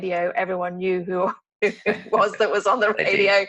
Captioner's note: laughs